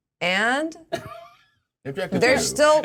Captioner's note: laughs